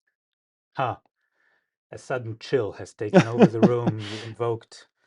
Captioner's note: laughs